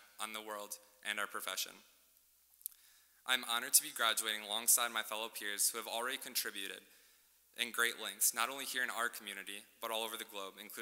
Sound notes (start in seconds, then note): none